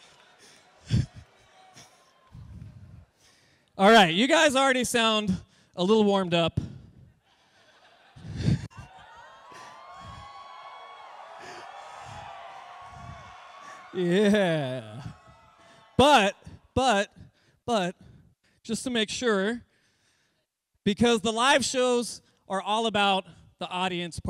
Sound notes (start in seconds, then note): 6.4 cheering